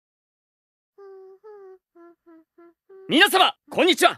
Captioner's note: Iris humming